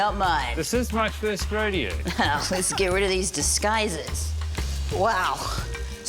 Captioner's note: laughs